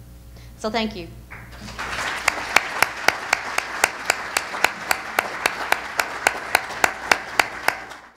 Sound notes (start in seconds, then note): 1.3 audience applause